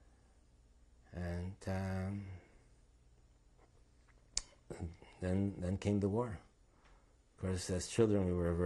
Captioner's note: pauses for 3 seconds